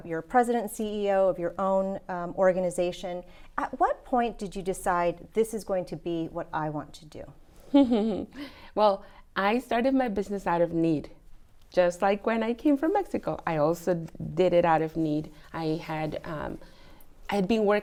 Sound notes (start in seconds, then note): 7.8 laughs